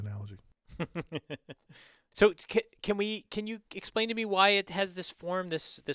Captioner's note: laugh